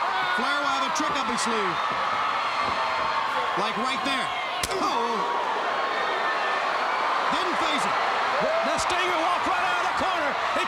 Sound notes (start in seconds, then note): 2.3 crowd cheering; 4.6 chop striking; 6.0 crowd cheering